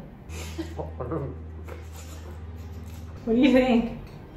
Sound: laughter

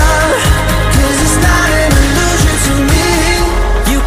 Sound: none

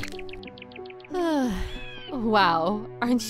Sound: sighs

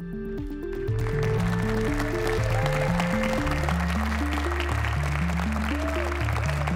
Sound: audience cheering and applauding

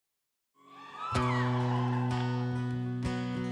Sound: applause

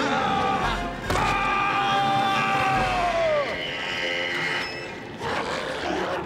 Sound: Leon yelling; Memlock growling

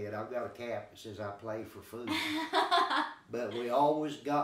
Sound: chuckling

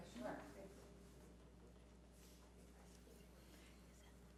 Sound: whispering

